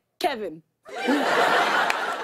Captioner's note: laughter